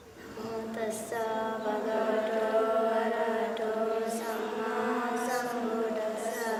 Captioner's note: chanting in foreign language